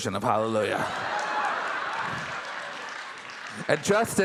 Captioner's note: audience applauding